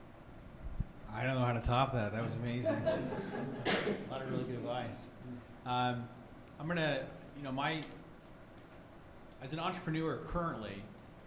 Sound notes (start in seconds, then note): 2.5 audience laughing